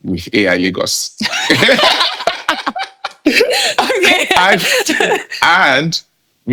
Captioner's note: laughing